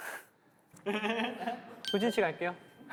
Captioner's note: laughing